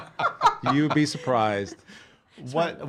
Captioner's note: laughing